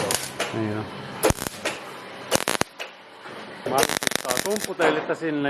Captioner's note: the sound of the drill